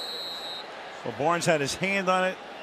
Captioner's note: whistle